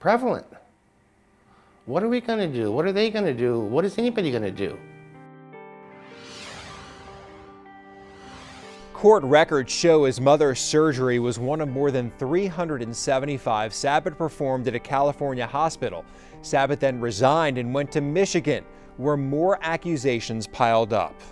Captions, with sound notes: What are we gonna do? What are they gonna do? What is anybody gonna do? (pensive music) (air whooshing) - Court records show his mother's surgery was one of more than 375 Sabit performed at a California hospital. Sabit then resigned and went to Michigan where more accusations piled up.